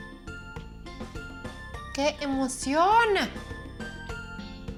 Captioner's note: speaking Spanish